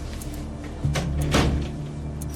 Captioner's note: tense music playing; door closes